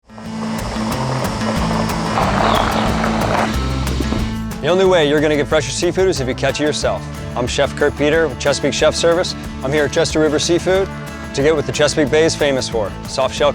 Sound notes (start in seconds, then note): 0.1 pan sizzling